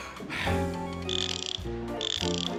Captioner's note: inhales deeply; joints creaking